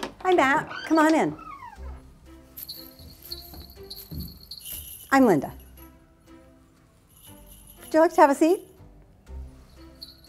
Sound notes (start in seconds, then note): 2.4 bells jingle